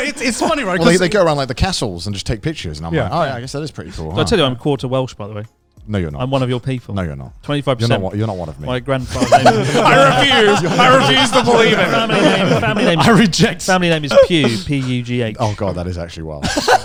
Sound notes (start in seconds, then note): 9.0 all laughing loudly